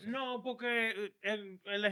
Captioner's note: speaking In Foreign Language